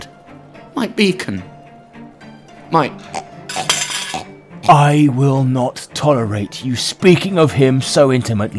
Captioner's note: choking; sword clatters to the ground